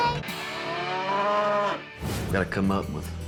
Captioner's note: mooing